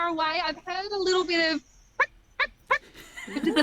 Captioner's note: imitates penguins